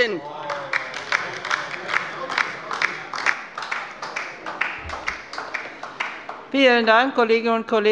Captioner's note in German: Beifall bei der LINKEN